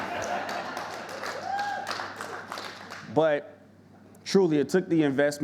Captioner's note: audience laughing; audience clapping